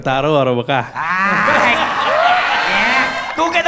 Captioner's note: crowd applauding